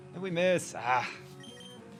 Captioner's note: grunts